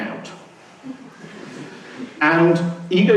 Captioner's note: laughing